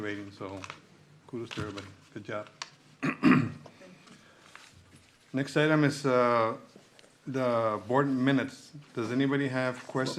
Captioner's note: clears throat